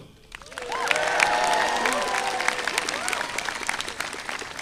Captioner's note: audience applauding